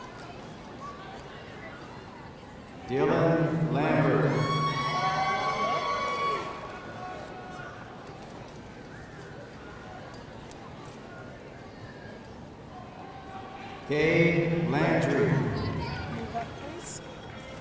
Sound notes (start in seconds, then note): 4.2 audience cheering